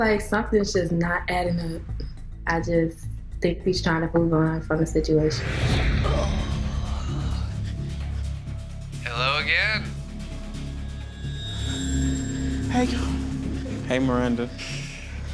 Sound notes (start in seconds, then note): 5.6 tense music; 6.6 exhaling